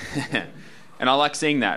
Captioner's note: laughing